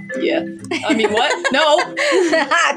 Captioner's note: laugh